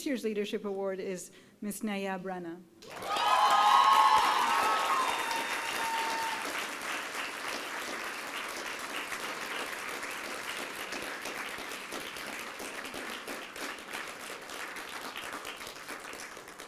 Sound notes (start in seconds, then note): 3.2 applause and cheering